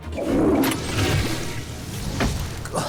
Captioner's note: toilet flushing